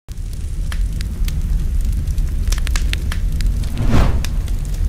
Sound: fire crepitation

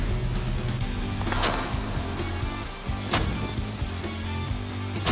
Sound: blade impacts

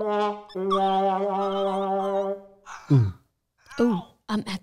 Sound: sad music; gasps

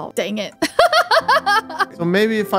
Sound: laughs

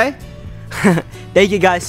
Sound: chuckles

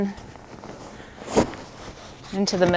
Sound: sheets rustling

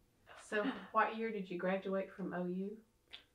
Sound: laughs

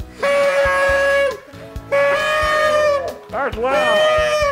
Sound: blowing horns

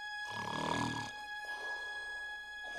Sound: snoring

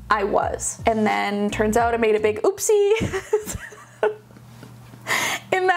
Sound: laughing

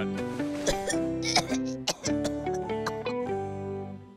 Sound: puking off screen

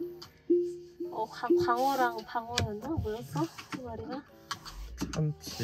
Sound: talking on the phone

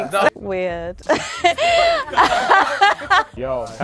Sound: lady laughing

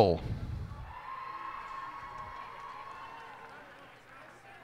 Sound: cheers and applause

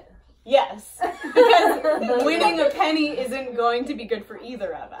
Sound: laughs

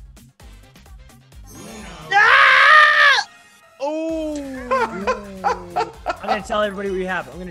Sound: laugh

